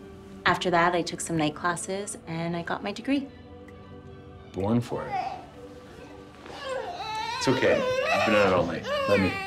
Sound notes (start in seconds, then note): 6.4 baby fussing